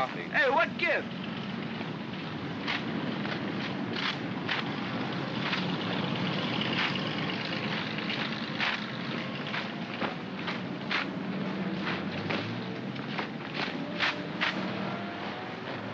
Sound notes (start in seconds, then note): 2.2 feet marching; 2.5 vehicles rumbling